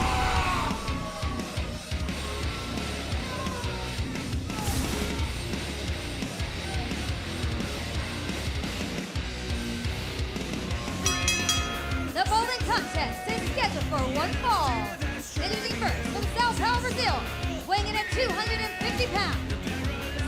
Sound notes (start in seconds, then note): 12.6 bell ringing